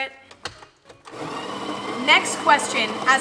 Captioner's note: grinder whirs